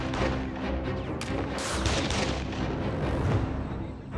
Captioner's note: gunfire